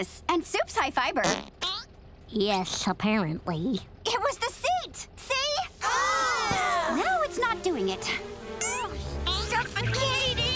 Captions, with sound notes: And sup's high fiber. [farting] Yes, apparently. It was the seat. See? [groaning] Now it's not doing it. Suffocating.